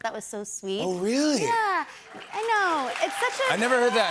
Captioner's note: cheers and applause